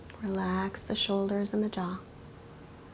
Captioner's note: none